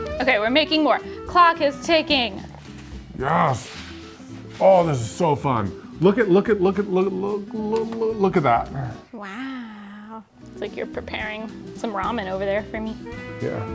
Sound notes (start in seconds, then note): 7.7 stammers